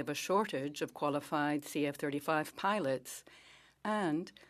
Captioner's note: speaking French